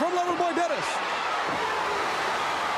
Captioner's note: crowd cheering